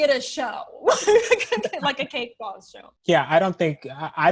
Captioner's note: laughs